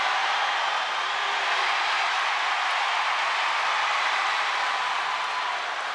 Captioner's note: crowd cheering continues